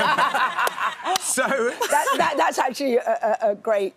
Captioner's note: laughs